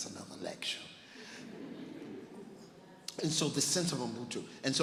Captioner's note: laughing